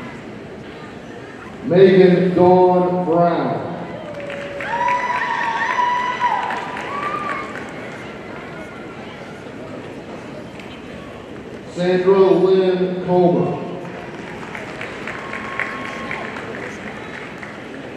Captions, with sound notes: Magen Dawn Brown, (audience cheering and applauding) Sandra Lynne Comer, (audience applauding)